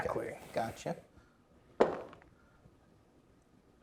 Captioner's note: dice rolling